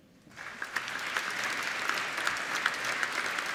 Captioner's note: applauding